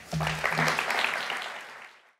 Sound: applause

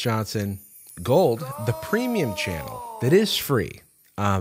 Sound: disembodied voice

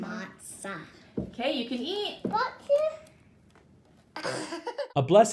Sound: little boy gibbers

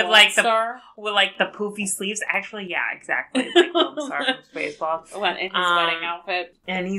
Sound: laughs

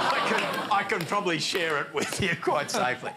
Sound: laughter

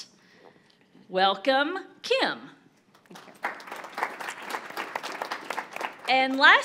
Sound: audience applauding

